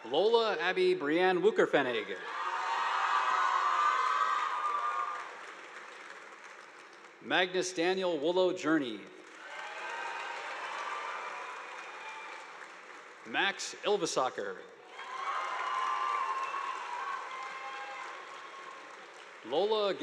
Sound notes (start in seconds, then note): 2.1 students cheering; 2.4 audience applauding; 9.2 audience applauding; 9.4 students cheering; 14.8 students cheering; 14.8 audience applauding